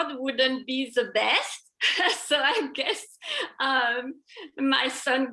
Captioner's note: laughter